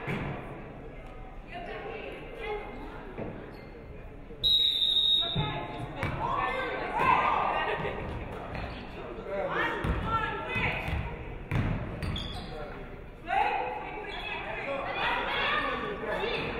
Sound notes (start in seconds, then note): 4.4 referee whistles